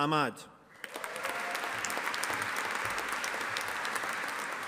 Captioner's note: audience applauding